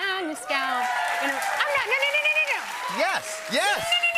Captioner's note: cheers and applause